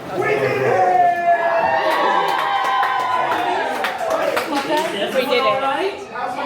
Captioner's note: cheering